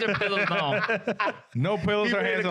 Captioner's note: laughing